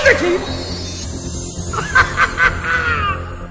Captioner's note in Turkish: Kahkaha atar